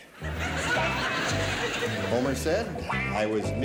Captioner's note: laughing